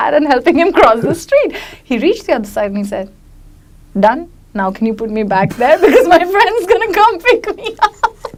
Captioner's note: laughs